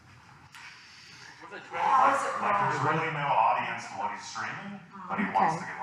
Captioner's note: sigh